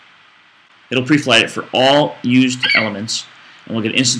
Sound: FlightCheck eagle screeches

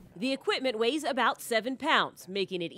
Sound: voiceover

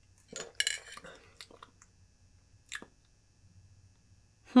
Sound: lip smacking

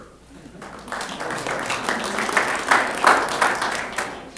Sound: applause

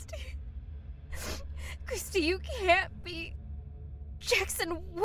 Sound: sobs

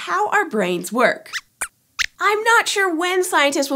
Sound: squeaks squeaks

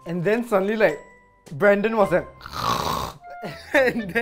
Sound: imitates stronger snoring

